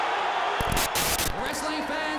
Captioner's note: static hisses